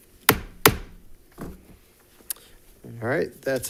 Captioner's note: gavel thuds